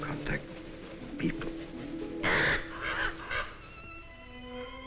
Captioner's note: bird cawing